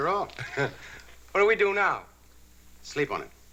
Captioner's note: chuckles